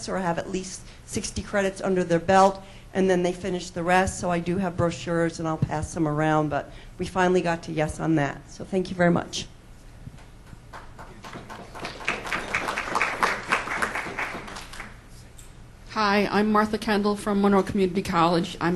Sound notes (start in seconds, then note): 10.8 crowd applauds